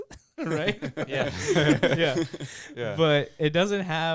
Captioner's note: laughing